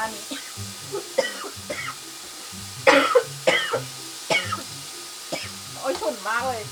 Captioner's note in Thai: ไอค่อกๆแค่กๆ เพราะฉุนมาก